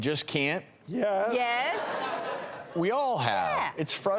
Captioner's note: audience laughing